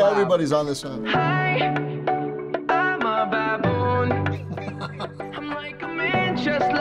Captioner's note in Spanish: riendo